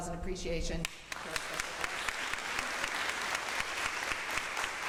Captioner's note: crowd applauds